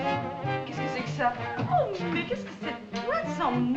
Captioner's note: French